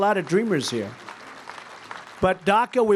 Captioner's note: applause